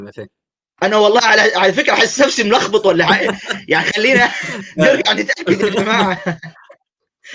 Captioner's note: laughter